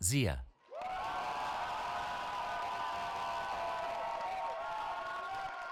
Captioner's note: cheering